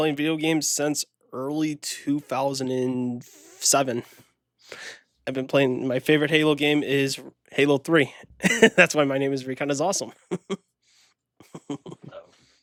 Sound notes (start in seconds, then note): 11.4 laugh